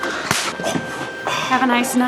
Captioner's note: hand smacking